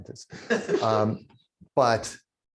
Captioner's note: laughter